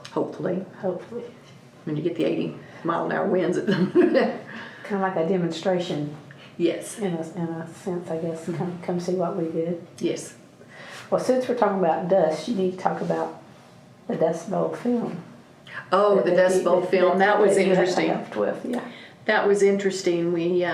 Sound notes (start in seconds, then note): 3.7 laughs